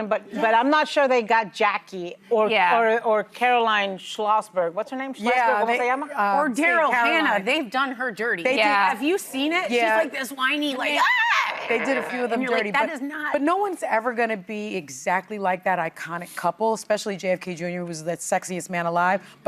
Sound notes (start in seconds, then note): none